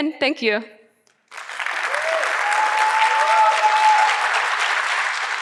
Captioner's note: audience clapping